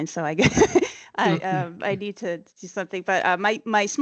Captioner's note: chuckles